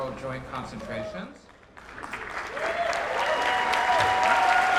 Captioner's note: applause, cheers